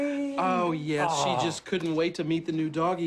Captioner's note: laughing